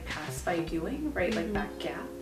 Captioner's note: mmmm